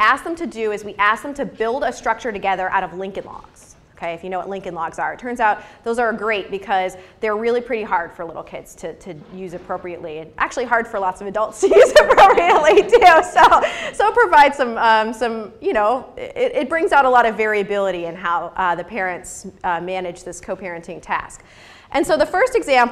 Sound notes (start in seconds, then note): 13.7 laughs